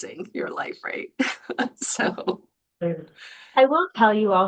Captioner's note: laughs